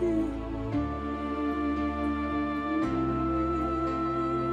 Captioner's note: humming